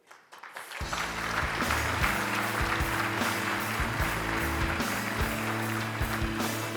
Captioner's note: audience applauds; upbeat music